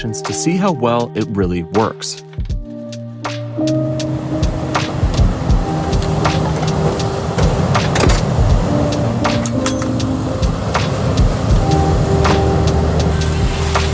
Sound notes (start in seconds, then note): 2.7 bright music; 3.8 ocean whooshing; 9.3 tools clattering